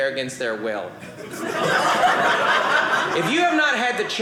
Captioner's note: audience laughing